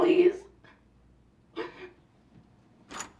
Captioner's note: sobbing